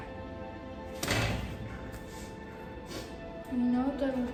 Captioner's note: gate rattles